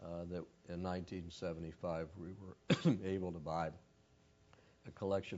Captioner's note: cough